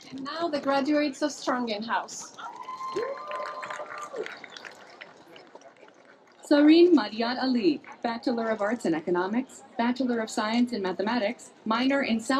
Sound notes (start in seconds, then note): 2.3 cheering, applause